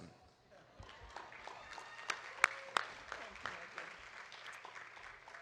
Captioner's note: audience applauding